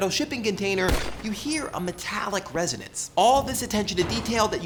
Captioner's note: gunshot; tinkle